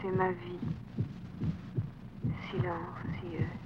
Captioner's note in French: battement cardiaque